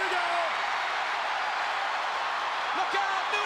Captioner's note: crowd cheering